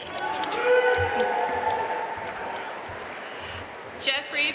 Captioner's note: audience cheering and applauding